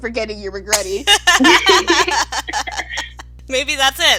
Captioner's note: laughter